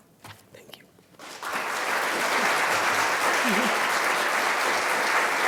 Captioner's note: applause